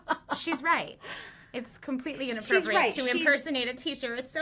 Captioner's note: laughs